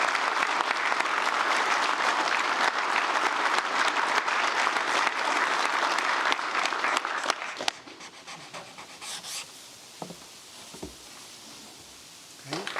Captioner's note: applause